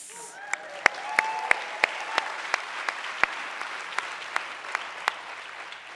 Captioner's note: audience cheering